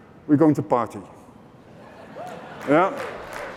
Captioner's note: cheering/applause